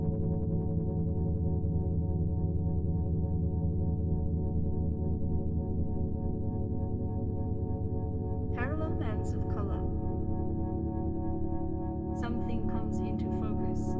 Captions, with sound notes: Parallel lines of color. (electronic humming) Something comes into focus.